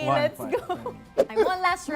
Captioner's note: chuckling